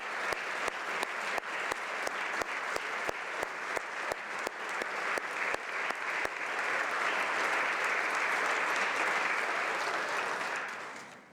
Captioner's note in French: applaudissements